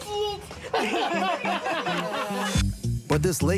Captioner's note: laughter